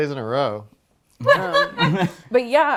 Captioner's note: laughing